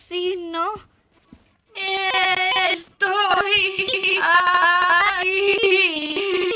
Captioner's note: voice glitching, stuttering continuously